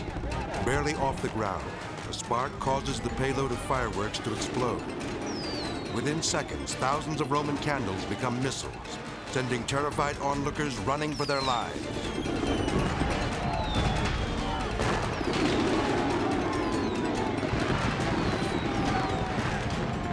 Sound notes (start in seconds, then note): 0.0 edgy dramatic music; 5.0 fireworks exploding; 11.1 fireworks exploding; 11.4 people yelling; 14.6 edgy dramatic music; 14.6 fireworks exploding